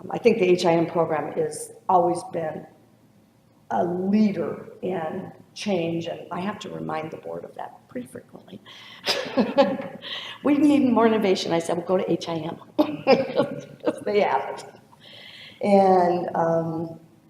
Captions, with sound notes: I think the HIM program has always been a leader in change, and I have to remind the board of that pretty frequently. (laughs) "We need more innovation." I said, "Well go to HIM 'cause they have it." (laughs)